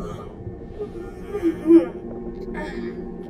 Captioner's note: yawning